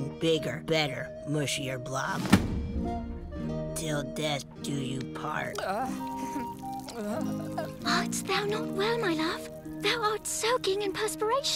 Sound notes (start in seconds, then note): 5.5 moaning